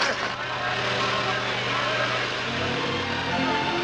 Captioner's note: engine rumbles